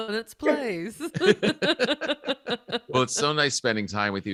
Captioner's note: laughs quickly